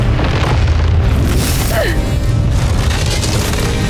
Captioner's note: arrow swooshes; grunts